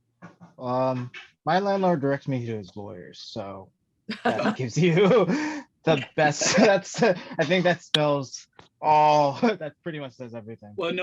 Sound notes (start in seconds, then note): 5.9 laughs